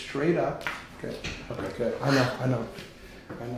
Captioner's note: joint cracking